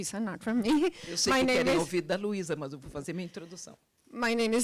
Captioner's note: translator speaking Portuguese